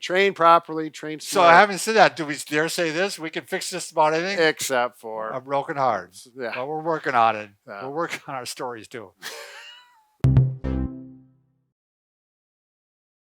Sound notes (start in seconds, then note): 9.2 laughing; 10.2 upbeat music